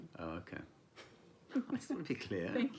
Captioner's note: laughing